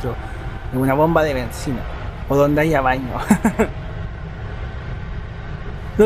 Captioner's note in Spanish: risas